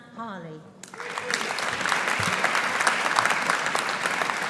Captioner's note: audience applauding